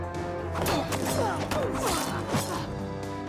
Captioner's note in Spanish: gruñe